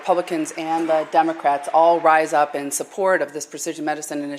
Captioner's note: applause